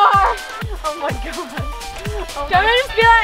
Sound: laughing

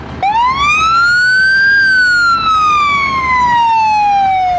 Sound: fire siren wailing

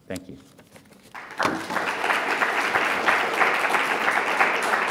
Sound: audience applauds

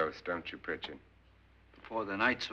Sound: none

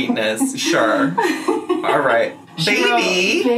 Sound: laughing

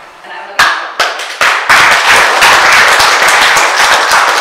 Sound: audience applauds

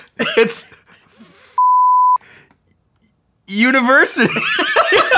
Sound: laughs; beep; both laugh

